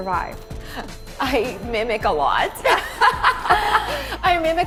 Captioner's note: laughter